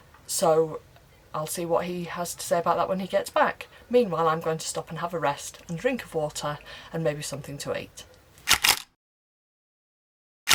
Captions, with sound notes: So I'll see what he has to say about that when he gets back. Meanwhile, I'm going to stop and have a rest and drink of water and maybe something to eat. [Camera click]